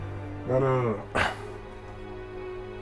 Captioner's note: grunt